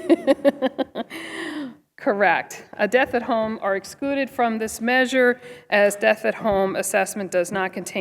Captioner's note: laughter